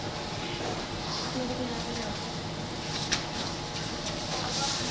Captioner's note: speaking in Mandarin